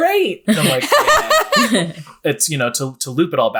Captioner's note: laughing